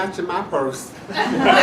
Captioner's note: laughter